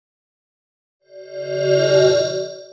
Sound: swoosh

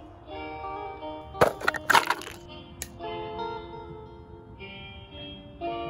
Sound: things being knocked over

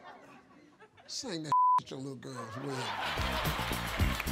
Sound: beep; audience laughs and applauds

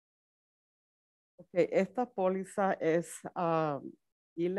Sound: speaks Spanish

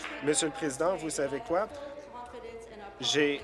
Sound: applause

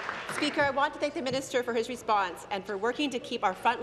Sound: applause

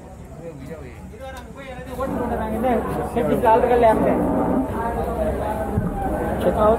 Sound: indistinct chatting

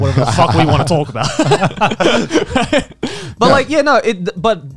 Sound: both laughing

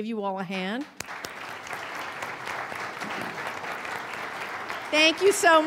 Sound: audience applauding

